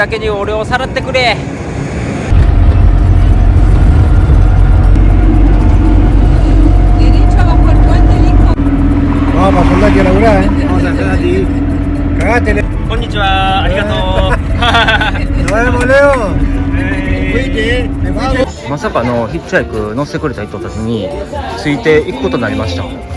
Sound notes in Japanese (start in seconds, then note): 13.8 笑い